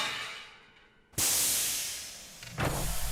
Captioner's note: steam hissing